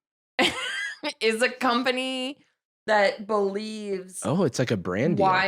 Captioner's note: laughs